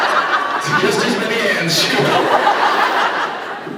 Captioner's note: laughs